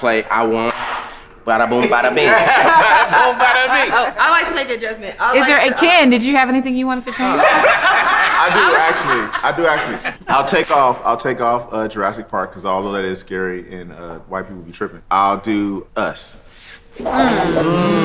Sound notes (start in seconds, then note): 1.6 group laughs; 7.0 group laughing